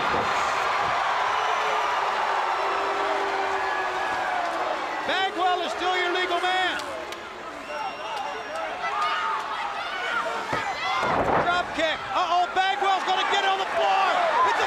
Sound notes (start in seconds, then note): 0.8 crowd cheering